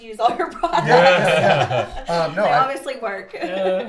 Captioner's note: laugh